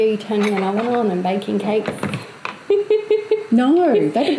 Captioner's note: laughs